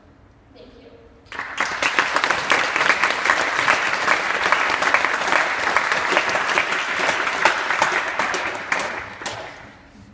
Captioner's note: clapping